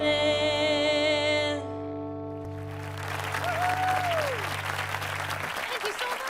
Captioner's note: cheers and applause